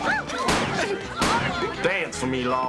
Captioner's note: gunshot; gunshots